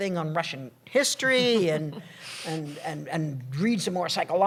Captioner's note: laughter